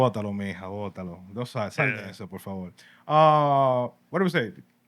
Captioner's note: speaking Spanish